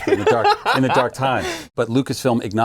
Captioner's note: laughing